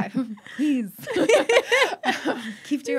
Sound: laughing

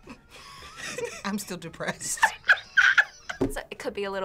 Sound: both laugh

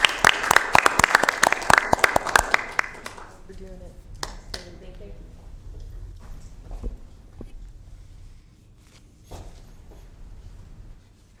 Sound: applause

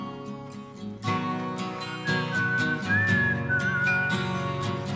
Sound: whistling

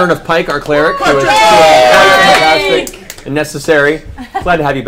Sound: all laugh

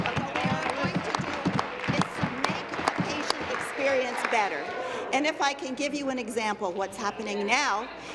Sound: applause

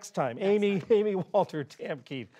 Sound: laughter

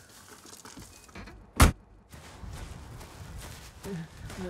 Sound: door slamming

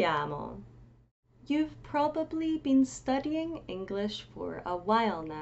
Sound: in English

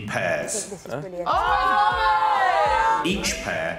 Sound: cheers

